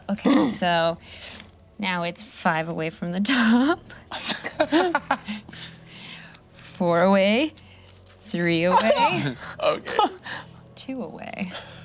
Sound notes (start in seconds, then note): 4.2 group chuckles; 8.7 laughs